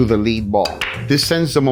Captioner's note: pool table balls clacking